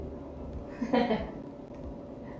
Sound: laughs

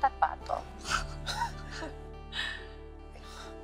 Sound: both laughing

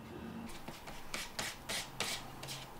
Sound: rubbing

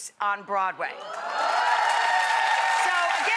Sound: audience cheering

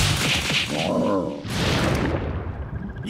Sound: groans

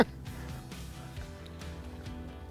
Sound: laughs

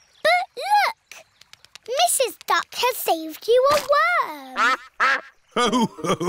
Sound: quacks

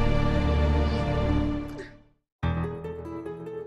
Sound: sobs

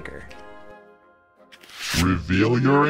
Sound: paper rustling; paper whooshing

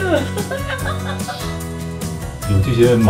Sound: laughters

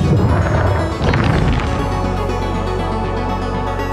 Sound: machinery booms

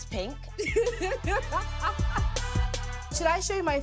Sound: laughing

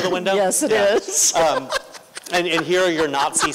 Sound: laughter

